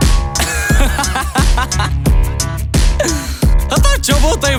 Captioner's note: sarcastic laughter